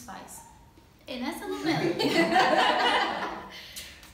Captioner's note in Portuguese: risos